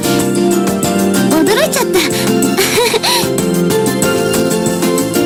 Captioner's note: laughs